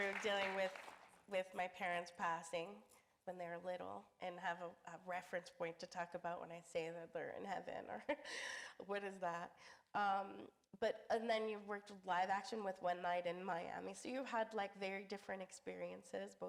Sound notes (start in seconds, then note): 8.8 chuckles